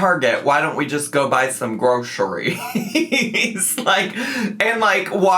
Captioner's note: laughs